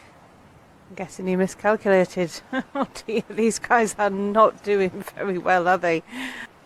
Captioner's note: laughing